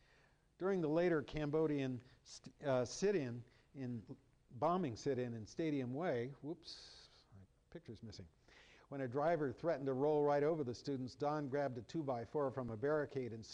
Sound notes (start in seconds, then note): none